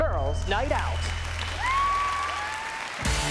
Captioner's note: cheering and applause; rock song plays